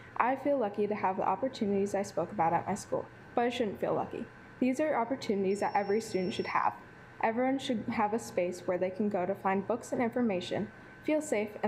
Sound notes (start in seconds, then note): 5.4 alarm beeping